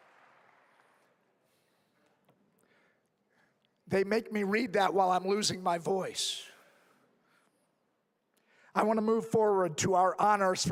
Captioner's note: applause